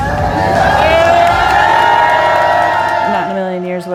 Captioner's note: cheering